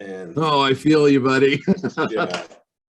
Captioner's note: laughs